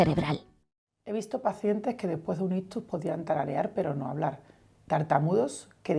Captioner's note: interviewee speaking in Spanish